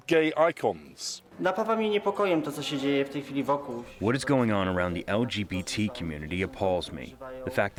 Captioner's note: through translator